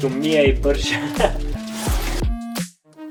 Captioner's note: laughs